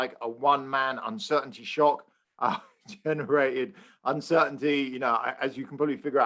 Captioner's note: laugh